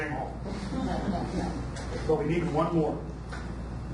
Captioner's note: audience laughs